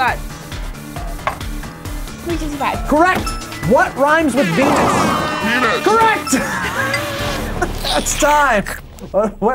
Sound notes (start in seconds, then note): 3.2 horn blares; 4.6 laughs